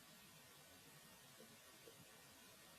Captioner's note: none